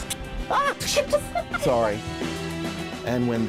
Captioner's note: laughter